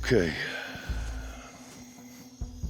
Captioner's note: sigh; suspense music